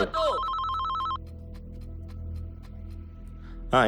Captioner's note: mobile phone rings